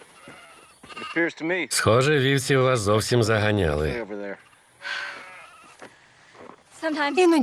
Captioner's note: sighs deeply